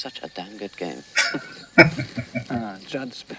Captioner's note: chuckling